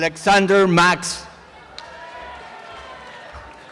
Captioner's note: applause and cheering